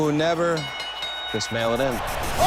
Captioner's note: bell ringing